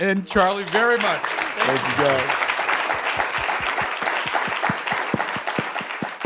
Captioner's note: audience applauding